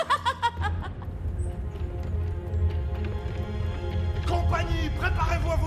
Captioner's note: both laughing; powerful music; hooves clomping